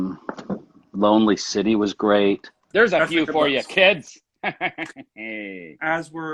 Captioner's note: laughs